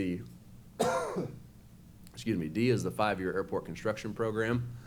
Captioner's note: coughs